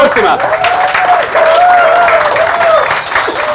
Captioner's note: applause